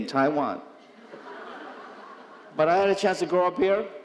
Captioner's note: audience laughing